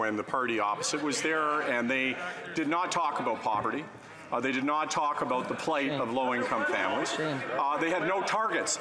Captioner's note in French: voix de l'interprète